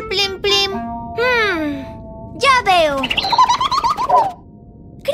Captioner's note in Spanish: Sonido de pájaro